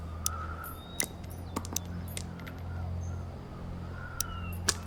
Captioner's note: bullets clanging